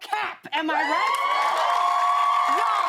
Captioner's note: cheers and applause